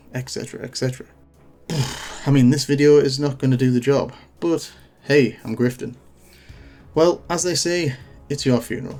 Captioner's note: sigh